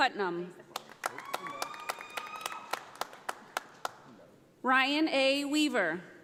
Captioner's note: audience applauding